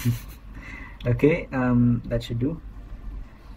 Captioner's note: laughter